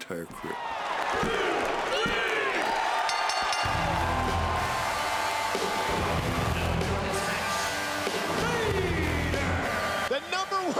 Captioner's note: applause